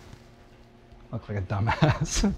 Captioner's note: laughing